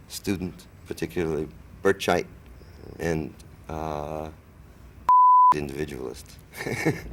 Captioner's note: beep; laughs